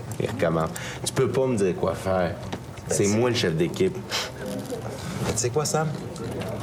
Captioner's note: none